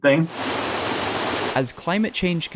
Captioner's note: water rushing